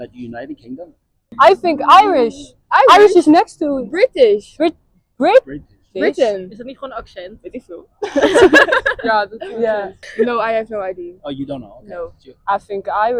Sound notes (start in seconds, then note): 6.7 speaking Dutch